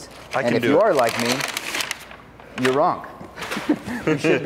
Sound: chuckles

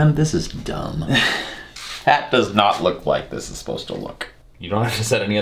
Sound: sighs

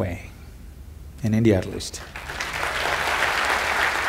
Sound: applause

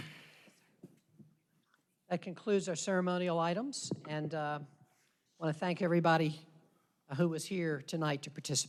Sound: applause

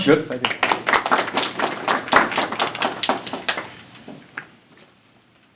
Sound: applause

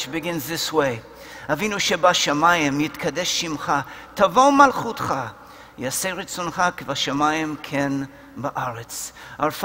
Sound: Hebrew

